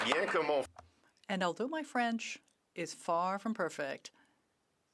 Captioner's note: some Applause